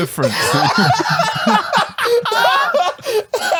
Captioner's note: laughs